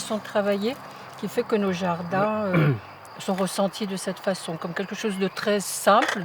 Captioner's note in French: raclement de gorge